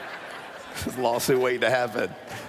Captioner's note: laughter